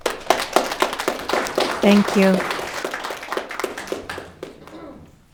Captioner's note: audience clapping